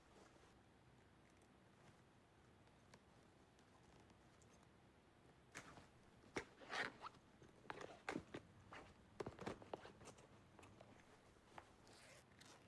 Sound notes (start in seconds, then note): none